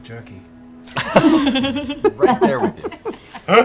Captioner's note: laughter